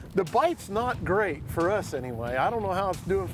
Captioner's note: none